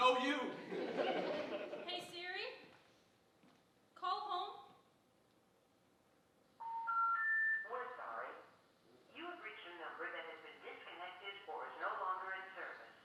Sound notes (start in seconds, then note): 0.5 audience chuckling; 6.6 phone tone beeping